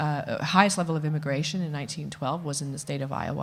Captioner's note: none